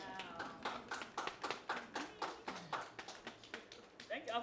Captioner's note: applause